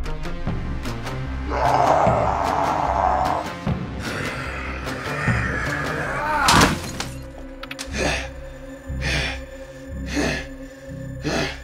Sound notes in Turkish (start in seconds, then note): 1.4 Fredbear Sanki karnına vurmuşlar gibi bağırıyor; 8.0 Freddy ardarda nefes alıp veriyor